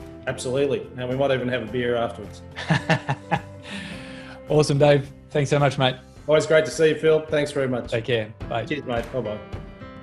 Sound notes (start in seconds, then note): 2.6 laughs; 9.8 upbeat music